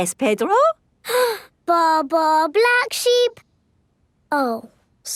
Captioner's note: inhales